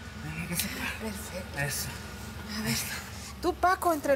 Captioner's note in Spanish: hablan entre dientes